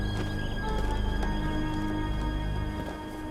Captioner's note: footsteps